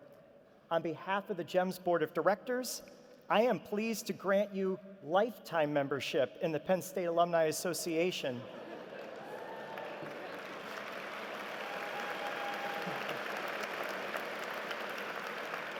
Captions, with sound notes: community into the University. Will Catherine compile please join me on the platform? >> [Applause] >>